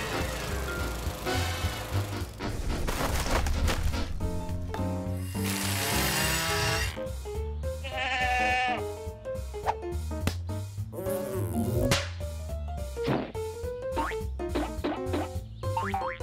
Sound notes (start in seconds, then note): 2.8 rustling; 7.8 bleating